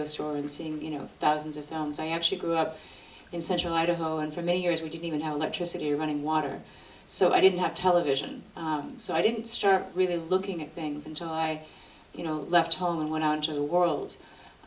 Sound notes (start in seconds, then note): none